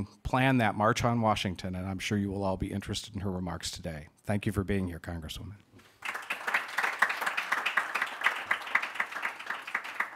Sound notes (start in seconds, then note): 5.9 audience clapping